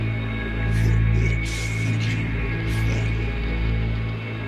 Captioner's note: raspy Voice